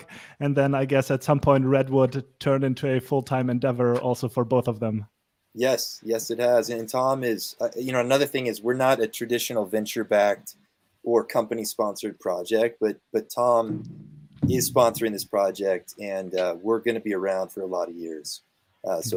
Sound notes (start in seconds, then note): none